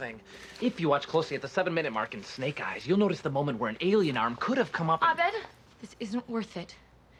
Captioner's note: none